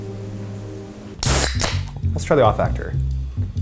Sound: soda can pops

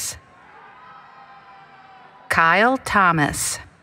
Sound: cheering

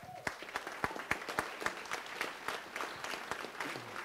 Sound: audience applauds

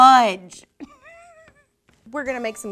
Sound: giggles

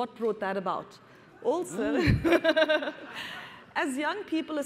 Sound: laughter

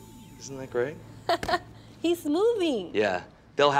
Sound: laughs

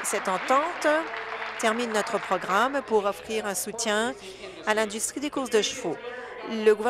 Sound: applause

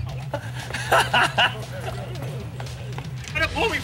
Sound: Ashton laughs

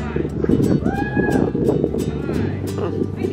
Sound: cheering

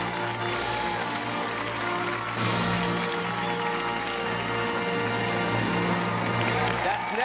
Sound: fanfare; cheers and applause

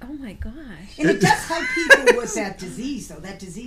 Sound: voiceover

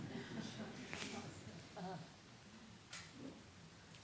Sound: laughter

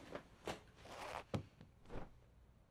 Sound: zipper noise

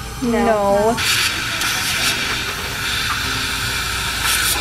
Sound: tube sucking

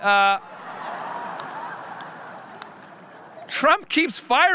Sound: audience laughing

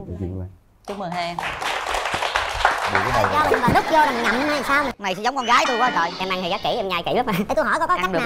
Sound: applause

